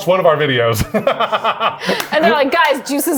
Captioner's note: laughs